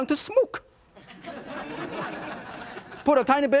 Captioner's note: audience laughing